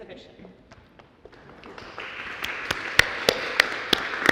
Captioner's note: audience applauds